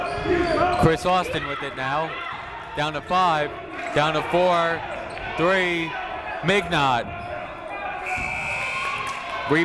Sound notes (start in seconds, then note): 0.7 shouting; 8.1 buzzer ringing